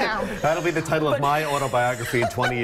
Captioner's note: laughter